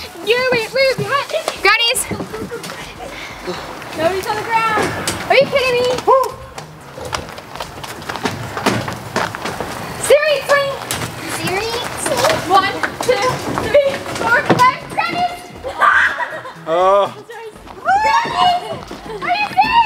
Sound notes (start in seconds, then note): 15.7 child shrieks